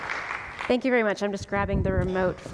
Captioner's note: applause